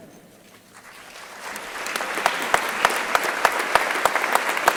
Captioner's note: crowd applauding